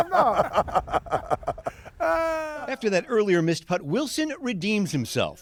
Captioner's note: laughter